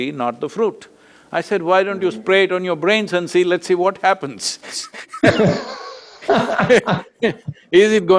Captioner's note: both laugh